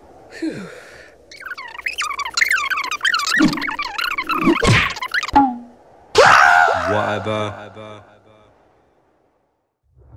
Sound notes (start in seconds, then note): 0.8 bug sounds; 6.1 screaming